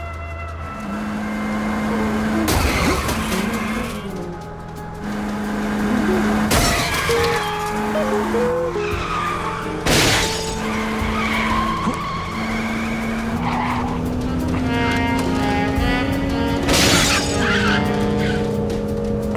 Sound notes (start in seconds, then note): 2.1 car crashing; 9.8 glass shatters; 11.0 tires squealing; 16.5 car crashing